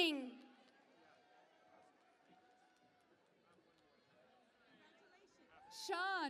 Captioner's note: cheering and Applause